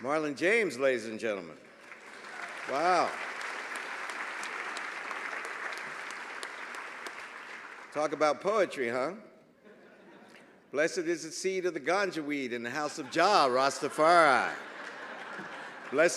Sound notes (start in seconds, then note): 1.6 applause